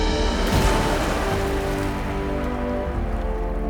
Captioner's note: huge splash